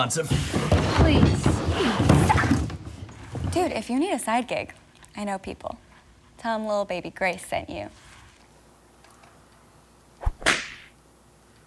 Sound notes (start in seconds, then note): 10.2 whip